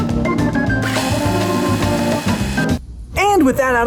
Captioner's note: lens whirs